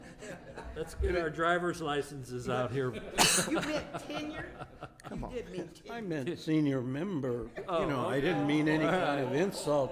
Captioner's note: laughter